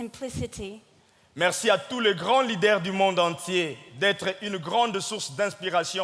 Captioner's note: speaking in French